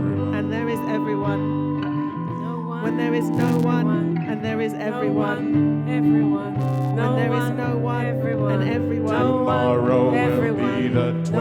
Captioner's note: voices overlap, repeat, reinforce